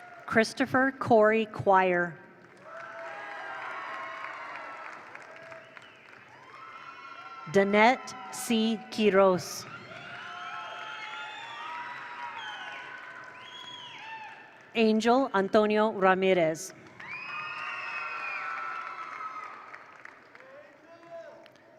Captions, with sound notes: Christopher Corey Choir. (attendees applaud) (attendees cheer) Danette C. Kiros. (attendees applaud) (attendees cheer) Angel Antonio Ramirez. (attendees applaud) (attendees cheer)